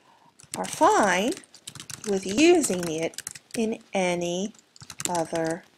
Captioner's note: end screen typing